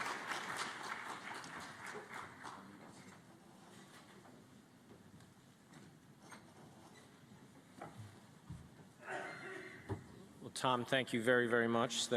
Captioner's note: applause